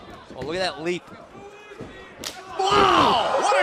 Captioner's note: crowd chatter